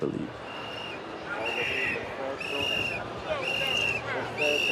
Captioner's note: whistle whistling